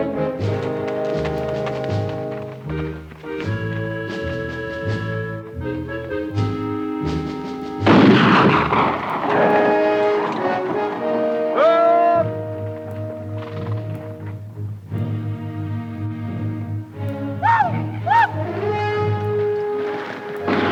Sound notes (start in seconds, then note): 7.8 gun fires; 17.2 Apaches howl